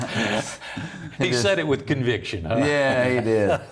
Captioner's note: laughing; laughing